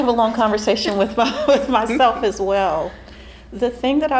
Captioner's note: laughing